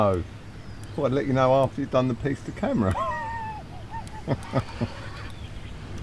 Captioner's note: laughing